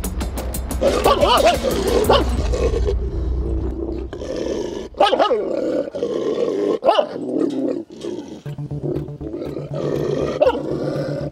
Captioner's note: barking, growling sounds and tense music